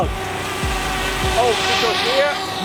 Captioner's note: winch engine whirs